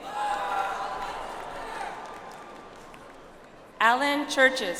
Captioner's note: audience applauds